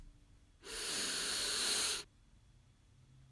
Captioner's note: click; deep inhale